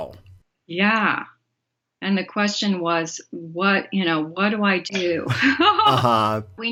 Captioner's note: laughs